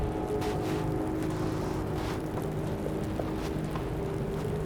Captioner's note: horses galloping